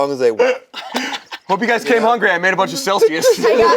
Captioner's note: laughs